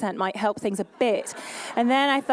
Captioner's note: laughter; english accent fades